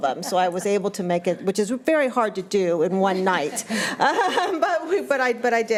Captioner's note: laughs